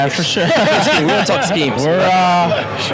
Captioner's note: laughs